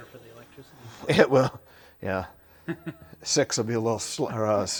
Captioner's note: person chuckles